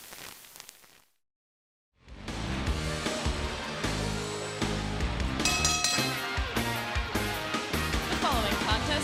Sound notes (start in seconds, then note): 5.4 bell ringing